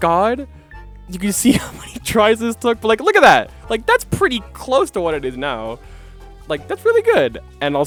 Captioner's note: laughing